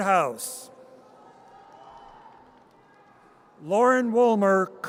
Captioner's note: audience cheers